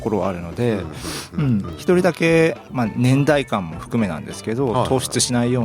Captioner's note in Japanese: 鼻息